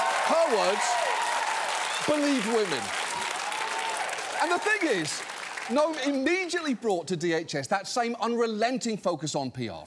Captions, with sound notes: Her words. Believe women. (APPLAUSE CONTINUES) And the thing is, Noem immediately brought to DHS that same unrelenting focus on PR,